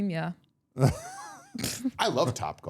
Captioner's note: all laughing